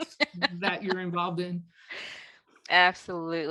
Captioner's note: laughs